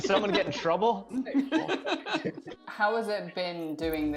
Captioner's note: group laughing